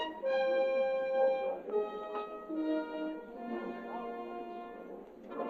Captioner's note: indistinct chattering